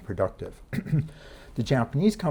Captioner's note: lecturer clears throat